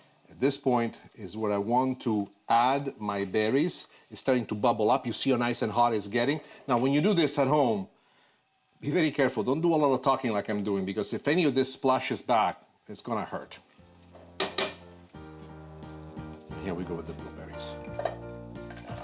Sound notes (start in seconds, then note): 14.2 butter gently sizzling; 14.3 spoon tapping